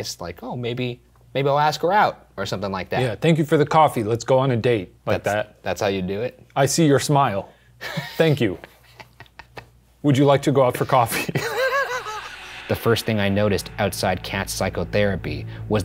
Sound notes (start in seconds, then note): 8.7 laughs; 11.2 laughing